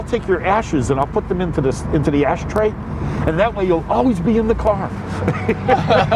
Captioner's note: laughs